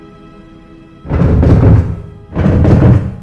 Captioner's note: loud rumble